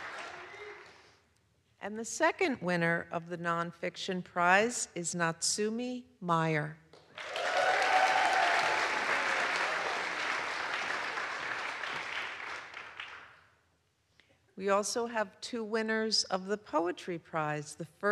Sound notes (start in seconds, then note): 7.1 audience applauds; 7.2 audience cheers